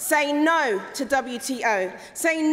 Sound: none

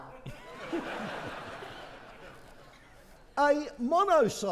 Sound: audience laughing

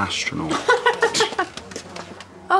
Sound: laughs

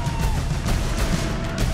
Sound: cheering

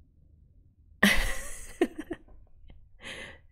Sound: laughs

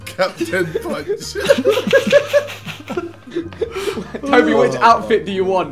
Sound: group laughing

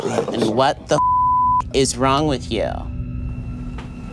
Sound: beep

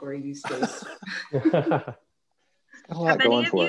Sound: laughs

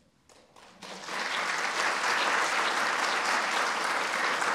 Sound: applause

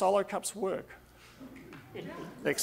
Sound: audience laughing

